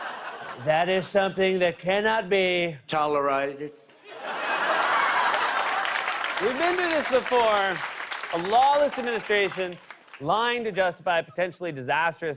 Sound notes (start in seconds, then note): 0.0 laughter; 4.0 laughter and applause; 6.2 normal voice